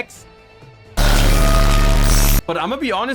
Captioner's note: bass boosted card activation noise